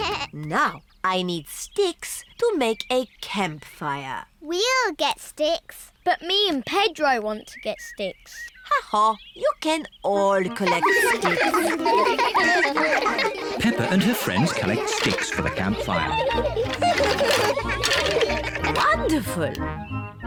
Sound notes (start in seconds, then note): 11.7 all giggling